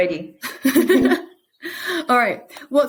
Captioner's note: both chuckling